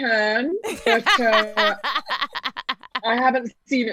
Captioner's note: laughing